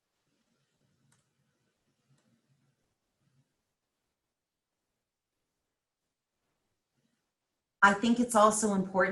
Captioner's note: silence